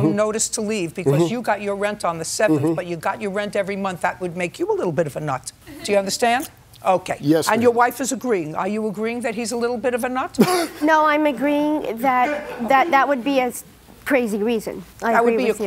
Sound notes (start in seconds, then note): 10.4 laughter